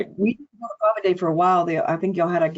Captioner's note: audio distortion